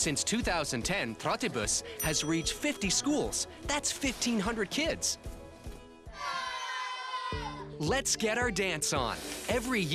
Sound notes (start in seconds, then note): 6.2 cheering